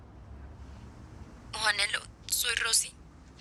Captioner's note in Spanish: Voz en mensaje